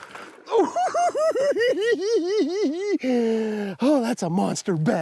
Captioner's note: laughs